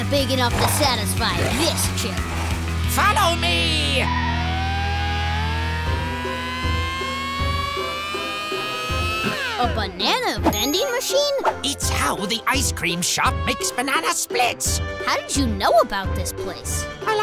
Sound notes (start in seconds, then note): 4.1 engines whining; 4.1 tires screeching; 6.0 circus music